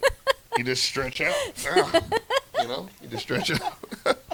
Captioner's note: laughs